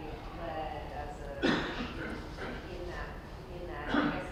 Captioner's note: coughing